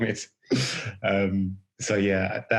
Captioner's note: laughing